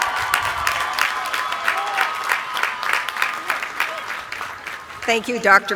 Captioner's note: applause